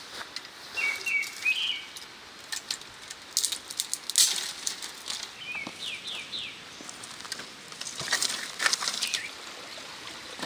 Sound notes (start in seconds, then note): 2.0 birds chirp